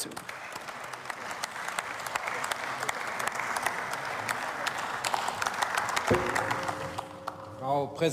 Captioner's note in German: Beifall